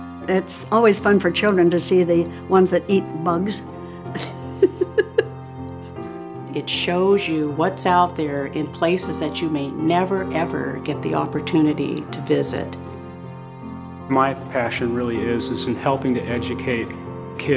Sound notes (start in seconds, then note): 4.1 laughter